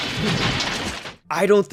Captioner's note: glass breaking